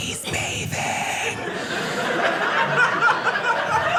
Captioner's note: audience laughing